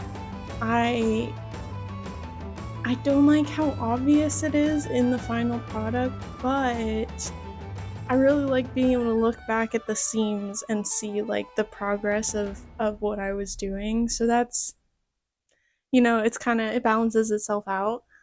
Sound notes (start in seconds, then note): none